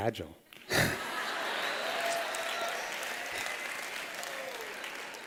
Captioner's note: laughter